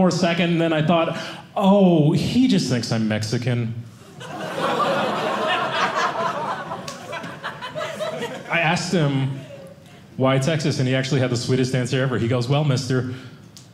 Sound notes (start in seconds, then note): 4.0 audience laughing